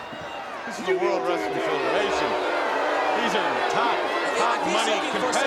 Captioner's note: audience jeers